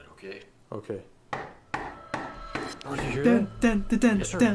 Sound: door knocking

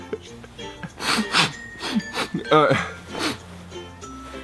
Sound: sniff sniff

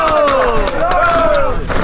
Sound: crowd

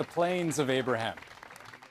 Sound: cheers and Applause

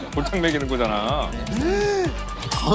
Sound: gasping

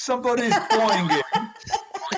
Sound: boing

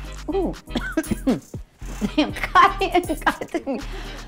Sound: caughs

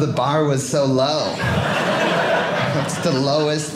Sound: audience laughing

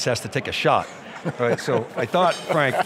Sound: Frank laughs

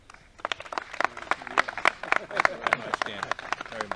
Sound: clapping

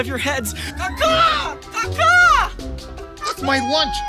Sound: mimics crow cawing

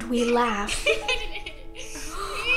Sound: both laughing; both laughing in video

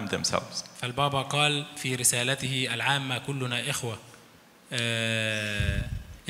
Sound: speaks in foreign language

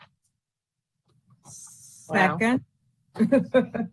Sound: laughs

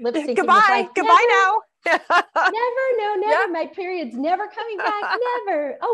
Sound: laughs

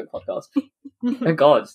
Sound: laughs

